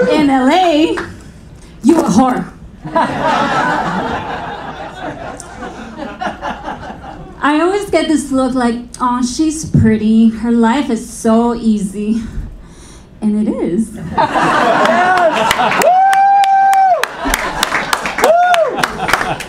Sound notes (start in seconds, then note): 14.0 audience laughing